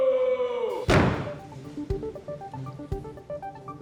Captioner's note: clay shots; throbbing synth music